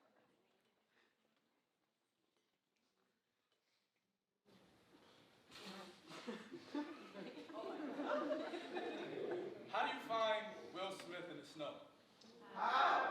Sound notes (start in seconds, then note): 6.1 audience chucking